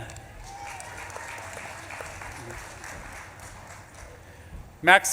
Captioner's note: audience claps and cheers